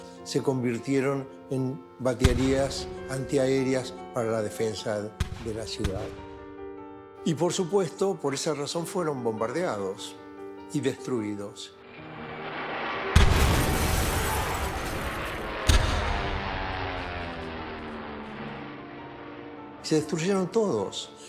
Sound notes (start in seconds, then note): 12.8 bomb explosions